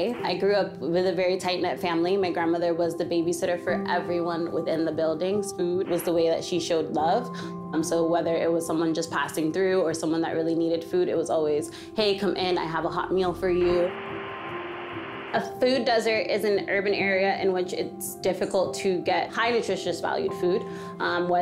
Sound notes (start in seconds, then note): 13.3 static noise